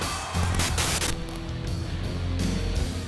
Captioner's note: static crackling; rock music